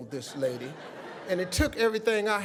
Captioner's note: audience laughing